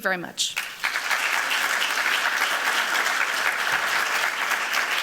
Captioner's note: applause